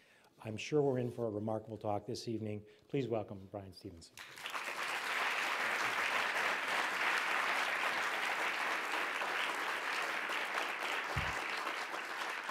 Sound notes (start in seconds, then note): 4.4 applause